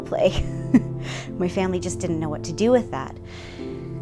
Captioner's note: laugh